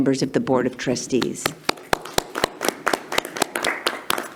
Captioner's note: clapping